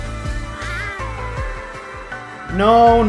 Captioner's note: seductive meow